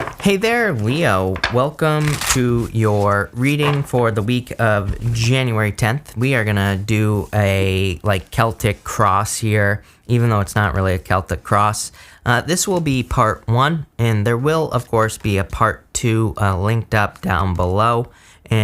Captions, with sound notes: - Hey there, Leo, welcome to your reading (cards shuffling) for the week of January 10th. We are going to do a Celtic cross here, even though it's not really a Celtic cross. This will be part one and there will, of course, be a part two linked up down below